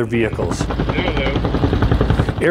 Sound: blades chopping

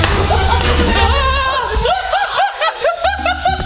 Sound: suspense sound; laughs

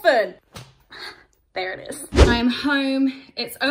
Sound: snaps fabric

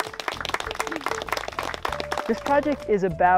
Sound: claps

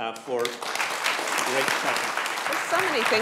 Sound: applause

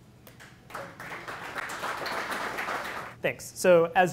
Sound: applause

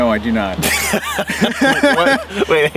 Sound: laughing

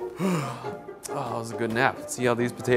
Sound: yawns

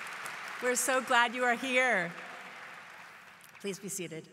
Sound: applause

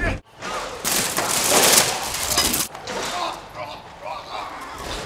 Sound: window shatters

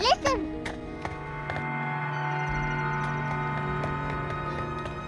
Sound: deep vibration

